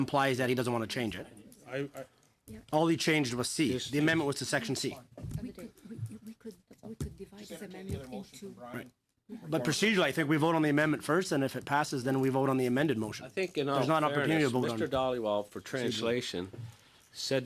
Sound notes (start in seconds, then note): 11.3 conversation din